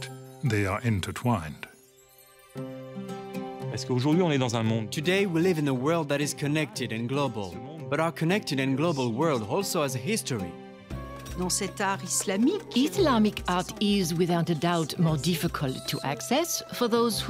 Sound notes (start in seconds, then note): 0.1 speaks French; 8.0 speaks French